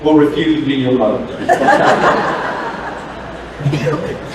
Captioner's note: laughter